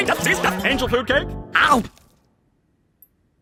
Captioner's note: chomps